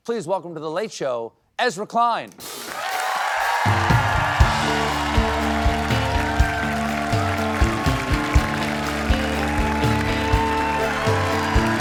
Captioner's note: cheers and applause